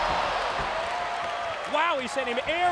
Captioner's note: audience cheers